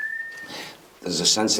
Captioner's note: man whistles